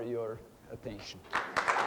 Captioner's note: audience applauding